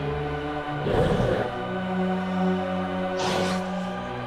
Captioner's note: growling